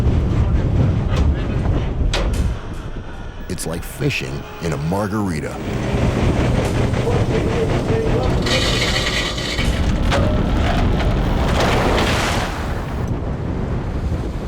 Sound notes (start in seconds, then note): 7.2 machinery drowns out crew; 11.7 splashing